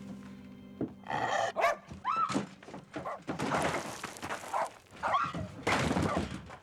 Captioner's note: dog barks